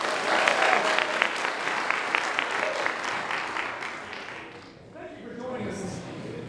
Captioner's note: applause